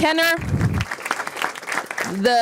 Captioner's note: applause